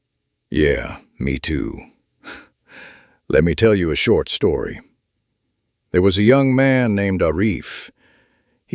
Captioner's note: gasps and sighs